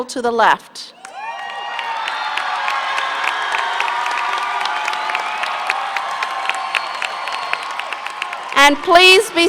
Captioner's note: applause, cheering